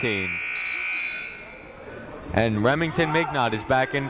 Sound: buzzer ringing

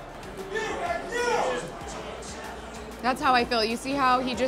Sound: fan cheering

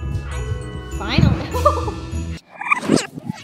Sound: Stephen thudding; laughs; video whirring

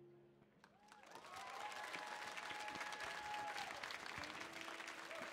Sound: audience cheering

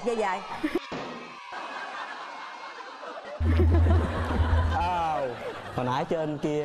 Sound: laughing

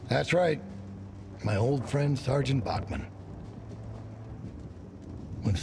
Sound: none

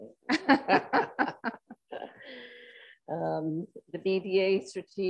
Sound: group laughs

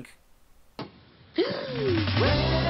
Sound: gasp

